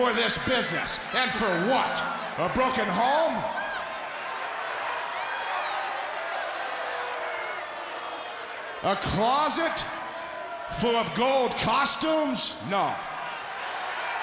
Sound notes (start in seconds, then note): 5.2 crowd chatter